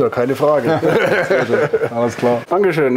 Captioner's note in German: lacht